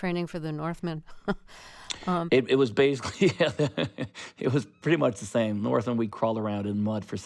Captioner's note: laughter